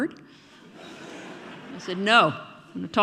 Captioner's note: audience laughing